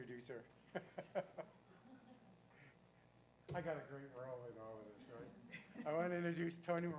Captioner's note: laugh